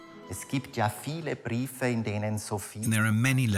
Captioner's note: speaks in foreign language